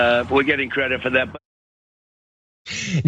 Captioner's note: laugh